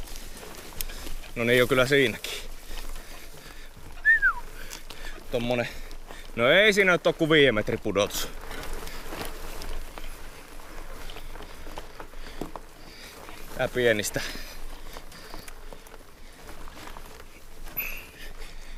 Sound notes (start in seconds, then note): 4.0 whistling; 16.4 in a sarcastic tone